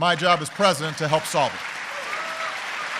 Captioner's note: applause